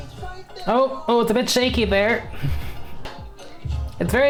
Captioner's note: chuckles